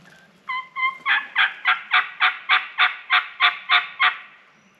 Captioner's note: imitating turkey call